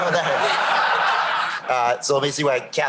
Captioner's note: laughter